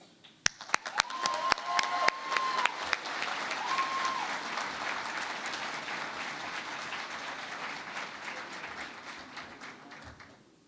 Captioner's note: cheering and Applause